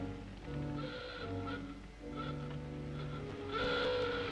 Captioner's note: horn hoots; horn blares